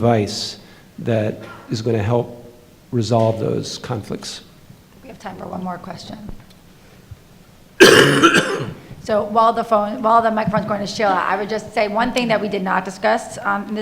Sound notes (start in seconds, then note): 7.8 coughing